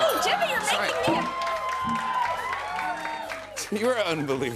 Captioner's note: cheers and applause